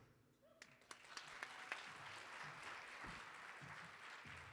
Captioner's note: audience applauding